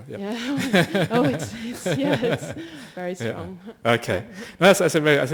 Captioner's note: both and the questioner laugh